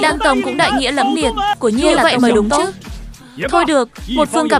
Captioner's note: tiếng cười